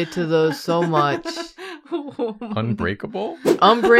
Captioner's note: laughs